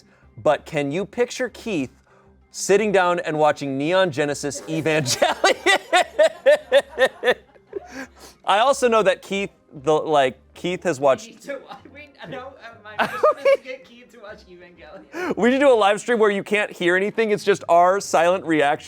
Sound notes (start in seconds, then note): 4.7 audience laughing; 13.0 laughs